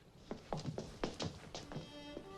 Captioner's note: feet pattering; wistful folksy music